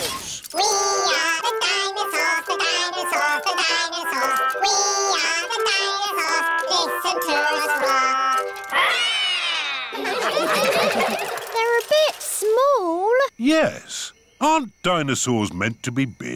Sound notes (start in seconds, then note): 8.7 all roar; 9.6 all laughing